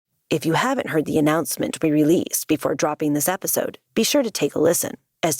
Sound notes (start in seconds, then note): 0.3 voice over